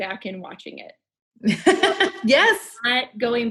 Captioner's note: laughs